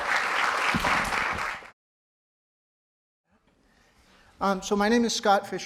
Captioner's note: audience applauding